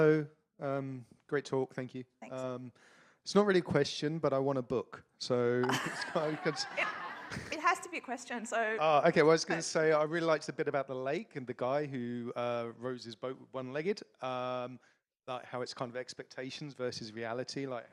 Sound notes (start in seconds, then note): 5.6 audience laughs